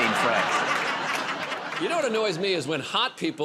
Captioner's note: laughter